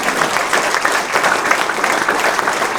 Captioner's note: applause